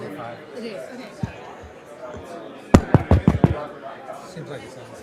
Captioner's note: tapping on microphone